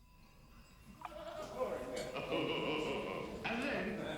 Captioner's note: voices echoing